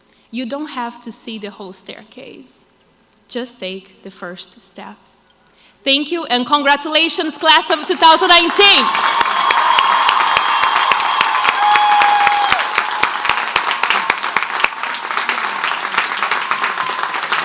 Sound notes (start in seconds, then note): 9.4 crowd applauds